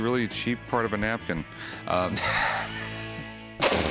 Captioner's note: laughs